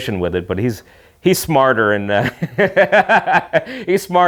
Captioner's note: laughing